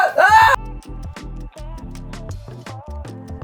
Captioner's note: yelling